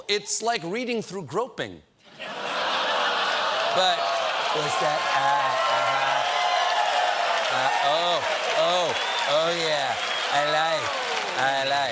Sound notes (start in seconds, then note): 3.2 applause; 4.0 laughter